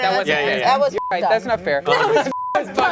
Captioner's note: beep